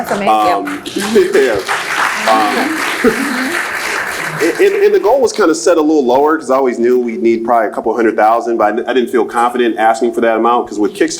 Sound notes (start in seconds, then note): 2.0 laughs; 5.4 applauds